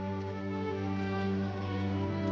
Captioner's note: horse hooves approaching